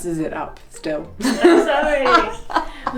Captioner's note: laughs